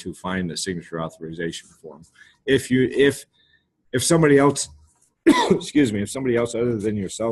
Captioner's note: coughs